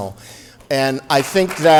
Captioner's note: applause